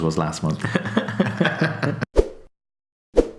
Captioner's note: laughs